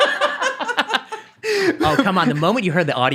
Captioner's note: laughing